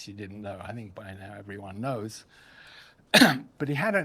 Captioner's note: coughs